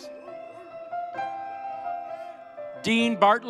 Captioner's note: audience cheering